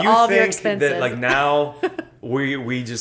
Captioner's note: laughter